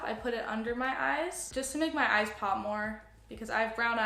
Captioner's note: none